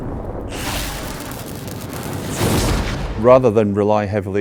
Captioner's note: lightning crackling